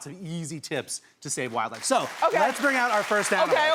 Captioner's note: audience clapping